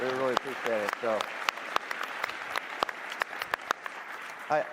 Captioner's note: applause